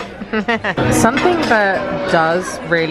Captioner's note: laughs